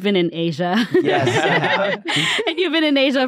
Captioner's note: everyone laughs